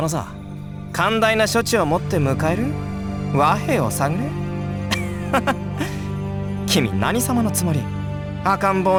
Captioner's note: laugh